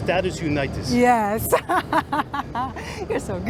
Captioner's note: laughs